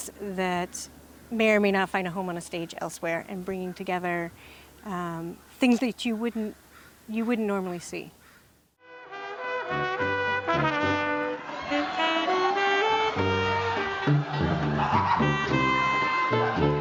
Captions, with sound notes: that may or may not find a home on a stage elsewhere, and bringing together things that you wouldn't normally see. (playful jazz music) (audience laughs)